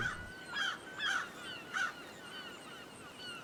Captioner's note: birds chirping